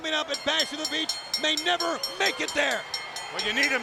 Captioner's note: bell ringing